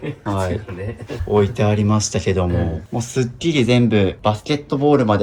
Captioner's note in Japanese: 笑い